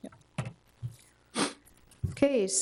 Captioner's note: attendee sniffs